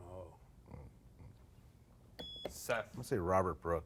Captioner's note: beep